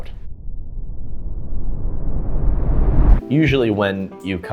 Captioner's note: building wind